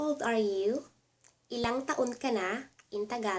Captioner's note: Tagalog